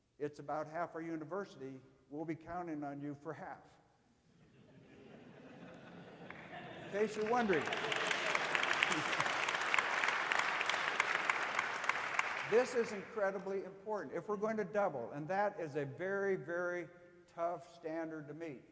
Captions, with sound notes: it's about half our university we'll be counting on your for half. (audience laughing) In case you're wondering. (audience applauding) This is incredibly important, if we're going to double and that is a very, very tough standard to meet.